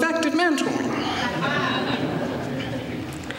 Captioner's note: laughter